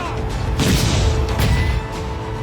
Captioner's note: explosions